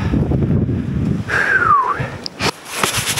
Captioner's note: whistles